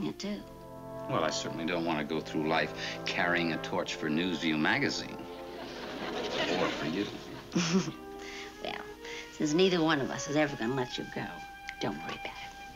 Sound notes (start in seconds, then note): 5.3 chuckles